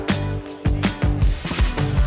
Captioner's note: electronic voices